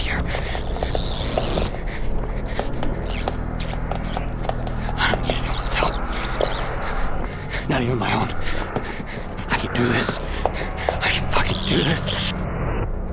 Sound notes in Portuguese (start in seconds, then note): 0.2 Alto, grito estridente; 3.0 Chittering; 3.0 Grito